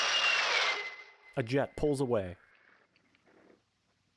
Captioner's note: A jet pulls away